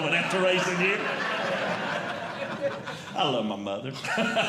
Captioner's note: audience Laughing